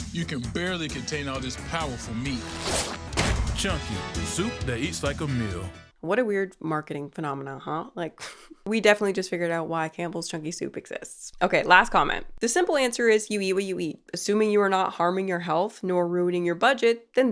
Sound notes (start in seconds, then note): 2.4 shirt whooshing; 3.0 can thudding